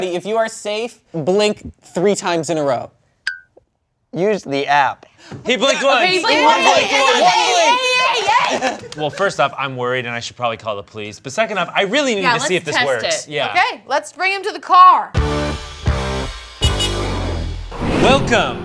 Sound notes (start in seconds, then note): 3.3 blink sound; 16.6 car horn beeps; 16.6 lighthearted keyboard music